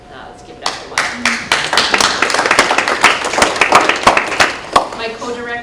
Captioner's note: applause